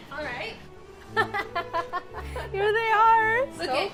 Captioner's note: laughing